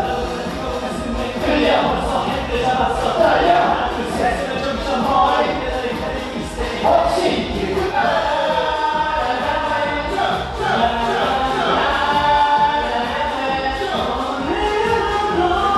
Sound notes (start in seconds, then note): 7.9 uproar